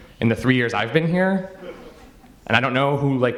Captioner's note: audience members chuckle